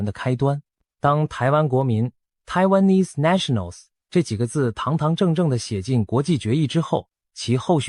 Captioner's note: Taiwanese